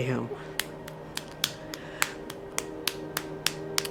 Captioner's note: hand punching